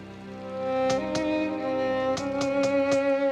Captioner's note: knocking